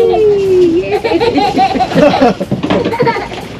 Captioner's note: laughing